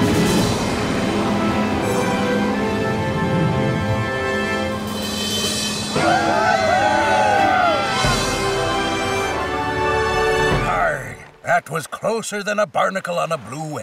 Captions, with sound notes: [cheering] Arrgh, that was closer than a barnacle on a blue whale.